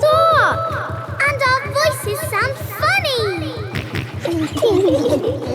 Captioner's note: echoes; kids laughing; snorts